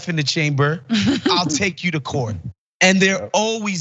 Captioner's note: laugh